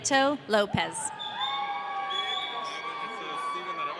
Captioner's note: audience cheering